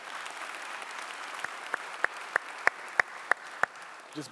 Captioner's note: clapping